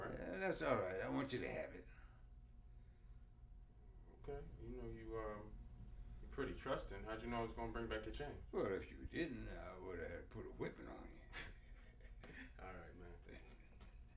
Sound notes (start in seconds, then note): 11.2 laughing